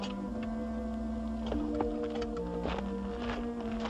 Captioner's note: footsteps